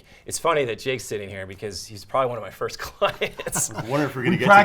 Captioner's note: laughing